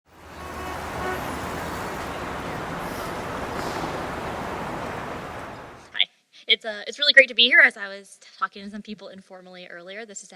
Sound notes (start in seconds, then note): 0.0 traffic whooshing; 0.1 car honking